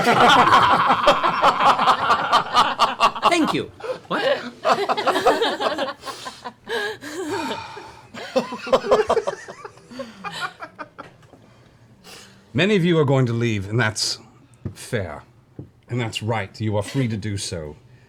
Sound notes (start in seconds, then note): 0.0 laughter; 6.0 sighs